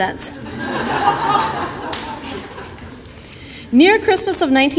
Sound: audience laughter

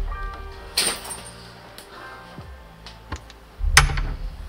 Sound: metal dropping; door opening and shutting

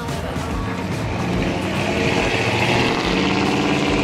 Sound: engine revs

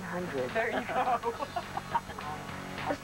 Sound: laughter

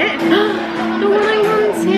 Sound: gasps

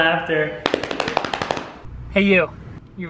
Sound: belly slapping

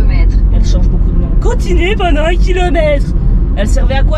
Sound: sarcastically

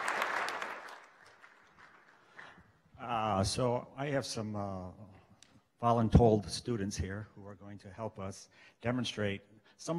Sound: clapping

